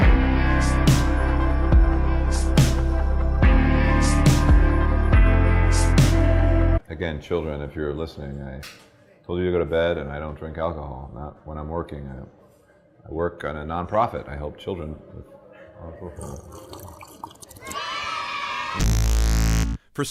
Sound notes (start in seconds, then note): 0.0 slow, inspiring music; 15.6 mumbles, sips; 17.4 children cheering